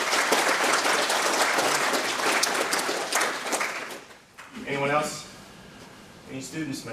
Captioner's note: applause